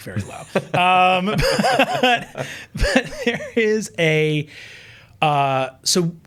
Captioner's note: chuckling; chuckles